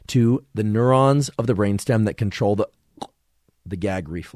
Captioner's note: gags